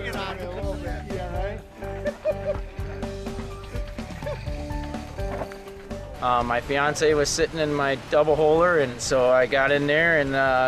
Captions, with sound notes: [CROWD CHATTER] [INSTRUMENTAL MUSIC] MY FIANCEE WAS SITTING IN MY DOUBLE HOLER